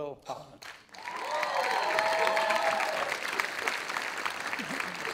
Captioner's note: audience applauding